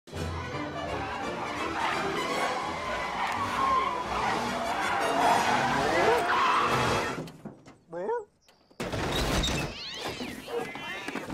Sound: tires squealing

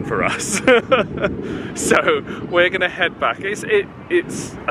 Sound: chuckles

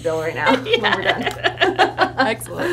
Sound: both laugh

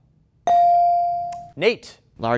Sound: ding

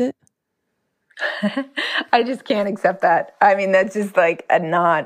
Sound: laughs

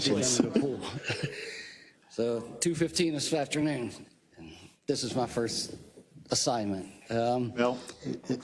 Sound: laugh

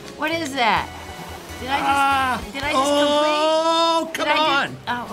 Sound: yelling

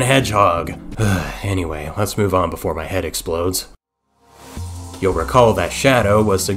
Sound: sigh

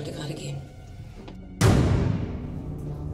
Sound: slamming door

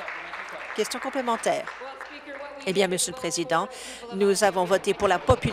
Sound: applause

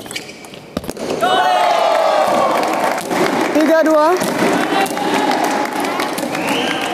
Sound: applause

